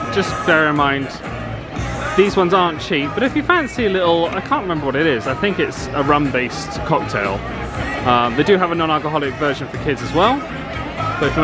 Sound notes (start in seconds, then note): none